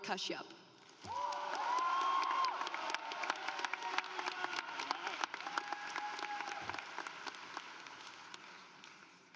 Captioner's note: applause